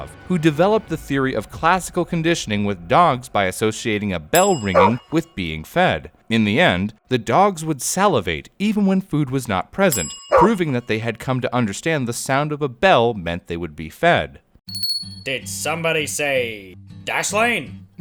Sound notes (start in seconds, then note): 14.8 bell ring